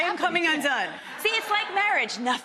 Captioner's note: audience laughs